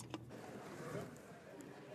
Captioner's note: speaking French